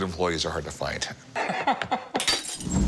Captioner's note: laughs